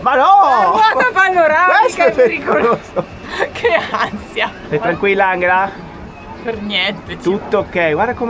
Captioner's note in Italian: risate